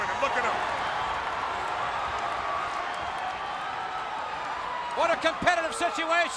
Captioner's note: audience cheering